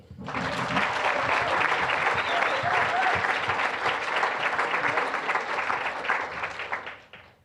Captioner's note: applause